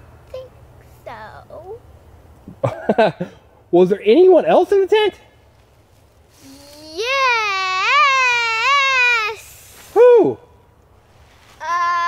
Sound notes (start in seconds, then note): 2.6 laughs